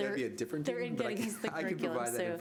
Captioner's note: laughter